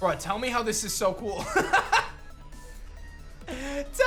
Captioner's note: laughs